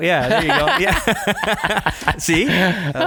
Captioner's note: laughing